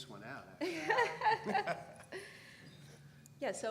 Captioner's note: laugh